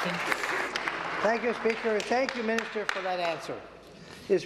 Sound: applause

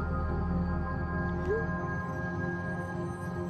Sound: cellphone bloops

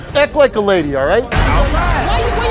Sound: audience cheers

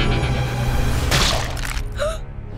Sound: smashing

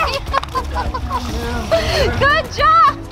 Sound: laughing

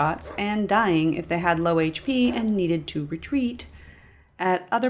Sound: sigh

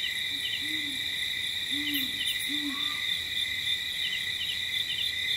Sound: owl hooting; crickets chirping

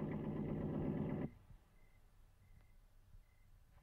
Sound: engine Stops

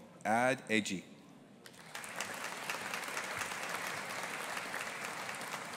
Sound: audience applauding

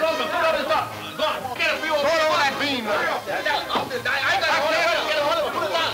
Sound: men yelling simultaneously

